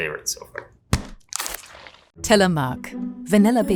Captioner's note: tub thudding